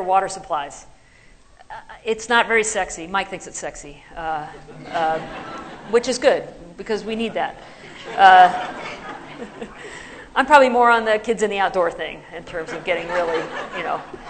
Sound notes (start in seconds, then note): 4.5 laughter; 9.0 laughter